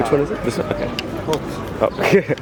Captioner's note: laughs